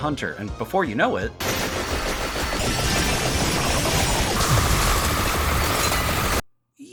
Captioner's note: cacophony of late-game Vampire Survivors